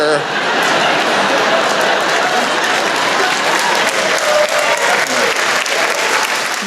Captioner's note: laughter